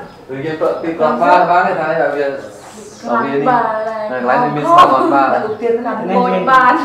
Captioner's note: chattering